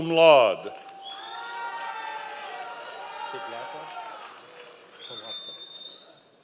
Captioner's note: members of the audience cheering